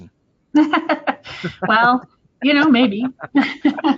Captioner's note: laughs